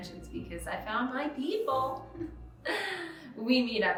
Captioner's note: chuckles